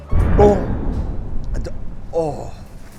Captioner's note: explosion booms